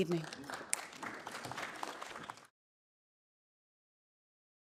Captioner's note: audience applauding